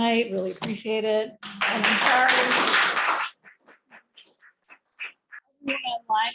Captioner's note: applause